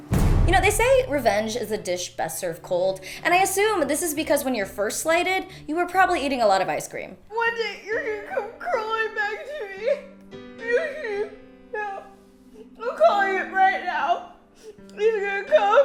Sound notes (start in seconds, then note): 0.0 dramatic bang; 7.2 crying voice